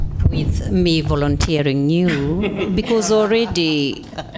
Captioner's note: laughter